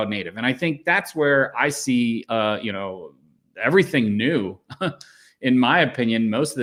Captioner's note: chuckles